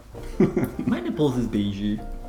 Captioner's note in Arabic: يضحك